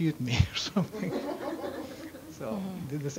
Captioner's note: audience laughs